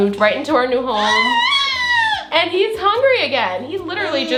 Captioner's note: child cries